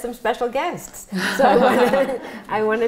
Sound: laughter

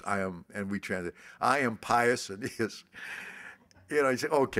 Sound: laughs

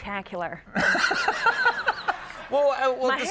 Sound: Conan laughs

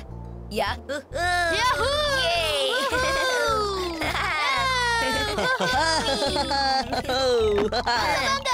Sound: screaming

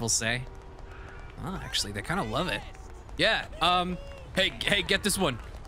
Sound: civilians cheering

